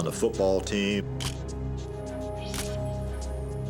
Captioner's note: camera shutter click